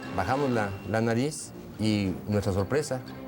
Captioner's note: speaking Spanish continuous